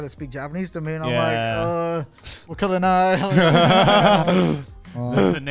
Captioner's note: speaks Japanese